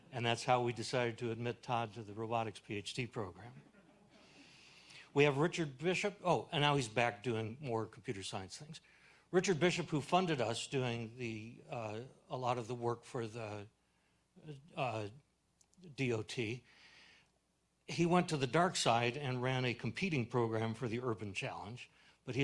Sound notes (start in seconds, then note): 3.6 audience laughing